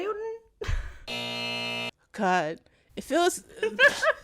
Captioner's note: soundbite of buzzer; laughter